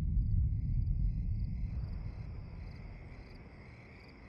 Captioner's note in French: stridulations d'insectes